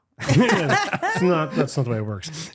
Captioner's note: laughing